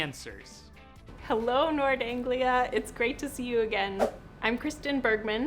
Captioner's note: whoosh